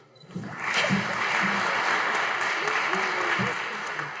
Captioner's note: audience applauding